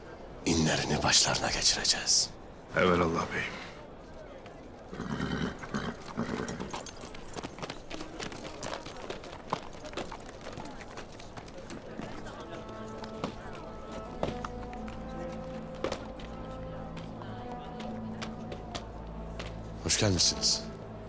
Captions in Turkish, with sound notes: ...inlerini başlarına geçireceğiz. -Evelallah beyim. (At kişneme sesi) (At nalı sesleri) Hoş gelmişsiniz.